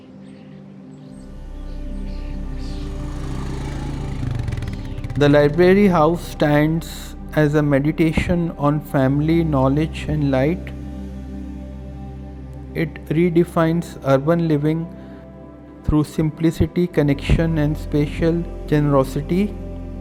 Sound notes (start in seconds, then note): 0.0 birds chirping; 1.4 bike Whirring